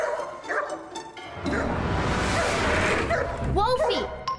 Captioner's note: sounds of dog barking